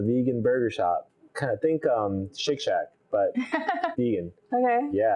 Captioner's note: laughs